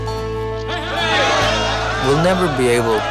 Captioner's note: cheering